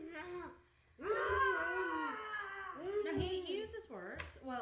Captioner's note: children roaring